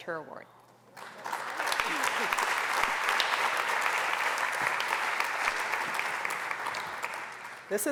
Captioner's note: applause